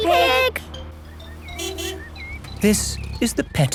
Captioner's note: honking